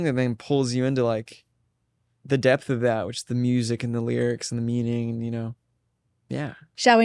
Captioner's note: none